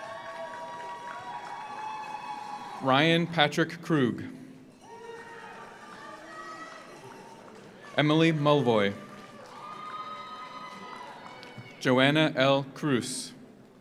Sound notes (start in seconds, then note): 0.0 audience applauds; 0.0 audience cheers; 4.8 audience cheers; 4.8 audience applauds; 9.8 audience cheers